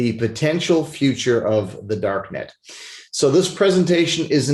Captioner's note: sniffles